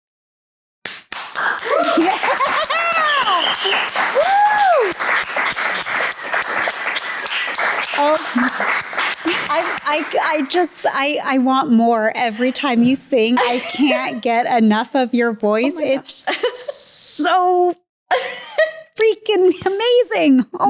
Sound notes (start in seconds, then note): 1.0 crew clapping; 5.1 clapping continues